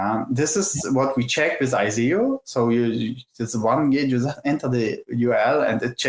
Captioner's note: clicks tongue